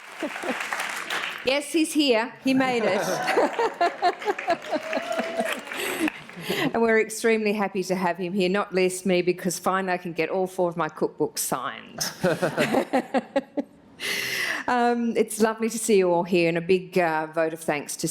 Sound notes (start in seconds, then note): 0.0 applause; 2.9 applause/Laughter